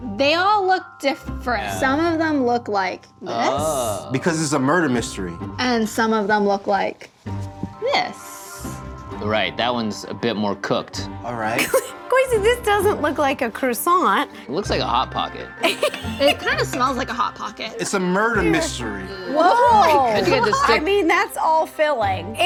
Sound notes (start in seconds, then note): 12.2 laughs